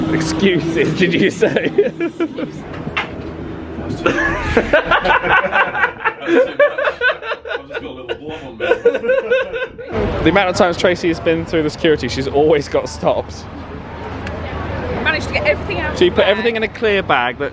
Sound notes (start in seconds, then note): 3.9 laughing